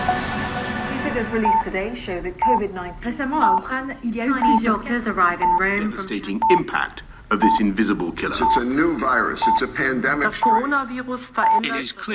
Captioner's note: TV news announcing COVID in several languages